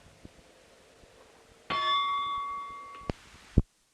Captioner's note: bell Sound